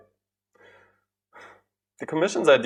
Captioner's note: sigh